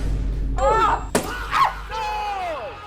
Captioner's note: balloon pops; squeals